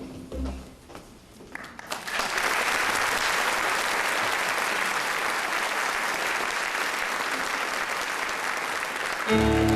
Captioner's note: applause